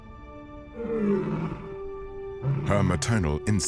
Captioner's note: peaceful music; lion roaring